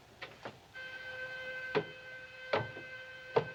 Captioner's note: curfew whistle sounding